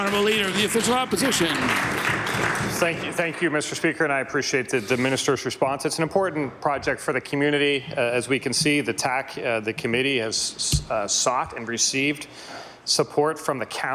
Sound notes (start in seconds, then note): 5.4 applause